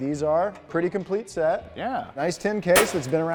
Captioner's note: metal bangs